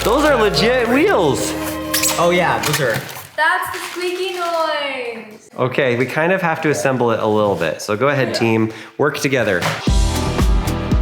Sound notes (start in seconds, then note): 2.1 wheel squeaking